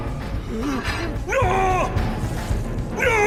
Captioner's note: groaning; shouting